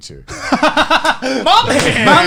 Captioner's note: laughing